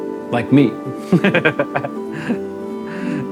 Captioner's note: laughs